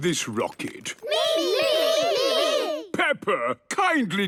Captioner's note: calling out in turn